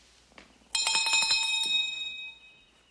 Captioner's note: bell rings